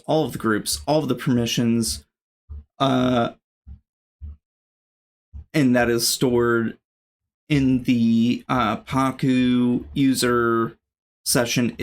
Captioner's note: uh